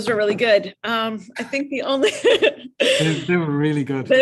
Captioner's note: laughs